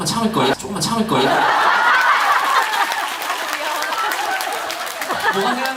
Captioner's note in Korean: 박장대소